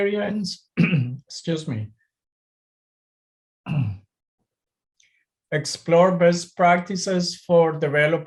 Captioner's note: clears throat